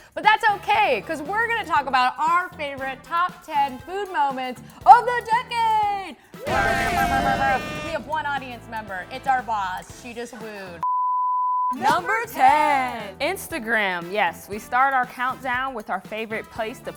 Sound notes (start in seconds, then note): 6.4 cheering excitedly